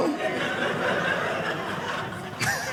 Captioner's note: audience laughing